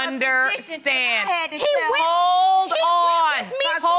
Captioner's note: arguing continues